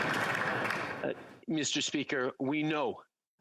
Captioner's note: applause